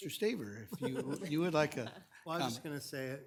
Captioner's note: chuckles